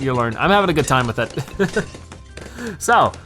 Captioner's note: laughs